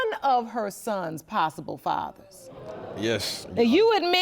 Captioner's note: audience murmurs